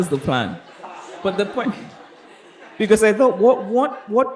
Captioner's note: chuckles